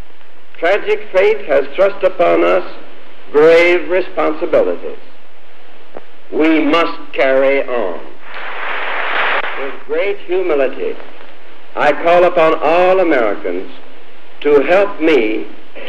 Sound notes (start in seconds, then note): 9.0 applause